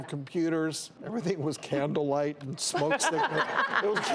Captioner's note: laughing